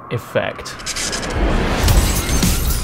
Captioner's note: sky crackles; dramatic music